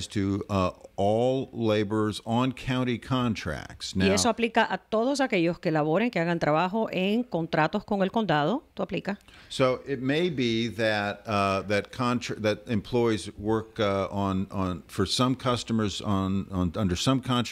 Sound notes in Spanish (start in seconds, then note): 11.0 Hablando ingl\s